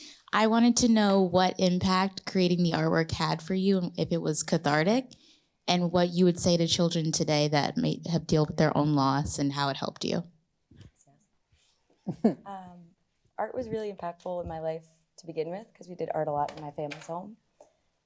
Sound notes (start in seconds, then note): 12.0 chuckles